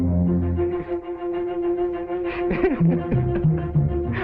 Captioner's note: Pepe laughing